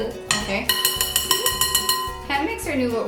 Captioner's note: beater clanking